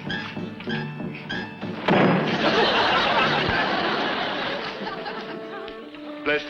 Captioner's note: running Dog thumps; audience laughs